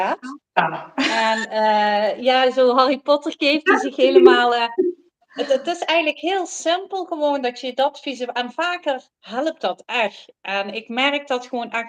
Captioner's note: laughs